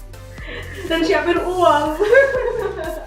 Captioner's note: fake crying and laughing